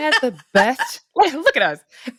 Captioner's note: laughs